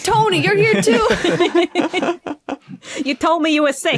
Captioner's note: guests giggling